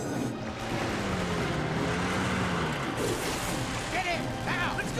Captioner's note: engine rumbling